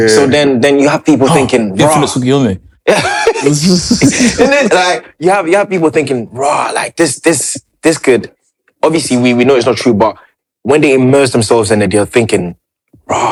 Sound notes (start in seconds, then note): 2.8 laughter